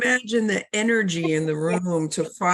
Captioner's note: laughs